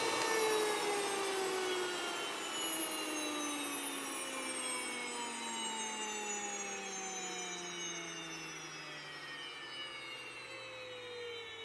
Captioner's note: whirring slows and stops